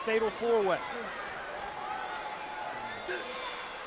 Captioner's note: crowd cheering